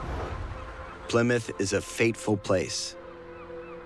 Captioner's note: seagulls caw